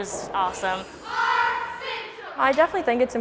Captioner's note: cheerleaders cheering